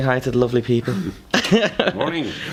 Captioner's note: laughter